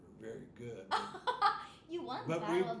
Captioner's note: laughing